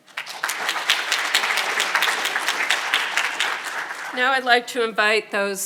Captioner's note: audience applauding